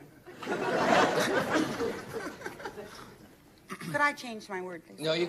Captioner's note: audience laughing